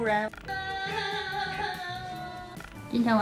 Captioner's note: boohoohooo